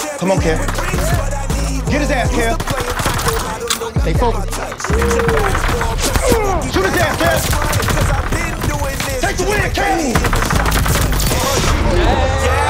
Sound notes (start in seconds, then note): 7.8 gun firing repeatedly; 10.5 gun firing continues